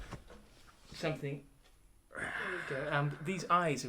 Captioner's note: tired roaring